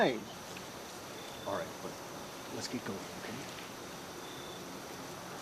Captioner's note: whispering